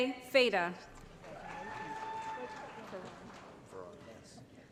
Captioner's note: applause